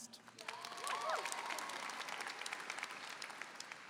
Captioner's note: applause